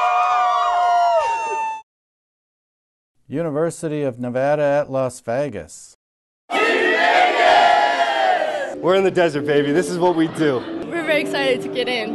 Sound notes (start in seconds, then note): 0.0 cheering